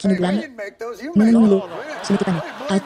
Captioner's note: audience laughing